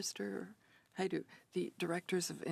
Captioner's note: speaking French